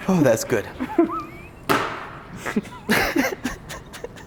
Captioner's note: laughs